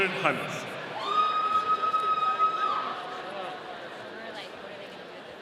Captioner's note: audience cheering